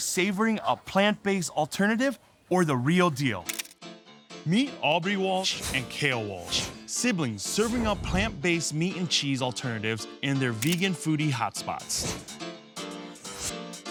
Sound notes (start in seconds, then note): 3.4 camera snapping; 4.4 upbeat music